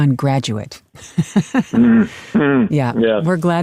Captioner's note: laughs